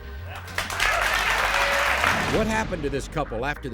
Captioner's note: audience claps